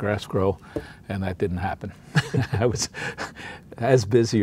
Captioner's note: chuckles